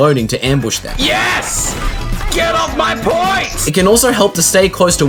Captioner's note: in-game, yelling